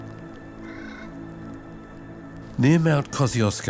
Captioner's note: bird squawks